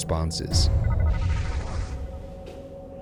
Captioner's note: computer bleeping; gentle ominous music